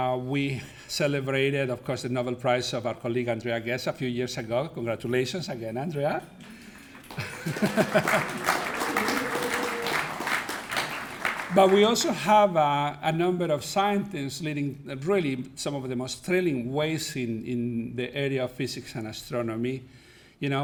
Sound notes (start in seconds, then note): 7.0 laughs; 8.2 audience applauding